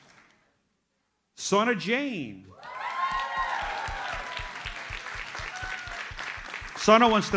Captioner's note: audience cheers and applauds